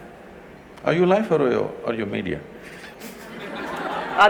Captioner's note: laughter